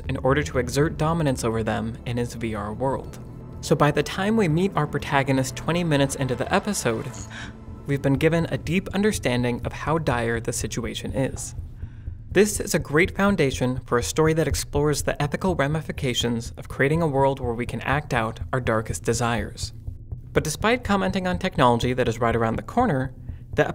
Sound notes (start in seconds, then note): 7.3 gasp